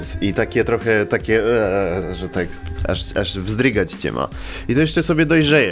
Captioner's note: disgust sound